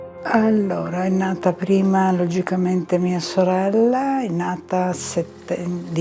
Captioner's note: speaking in foreign language